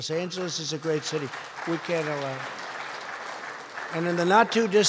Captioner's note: applause